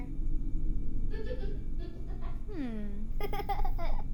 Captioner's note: child giggling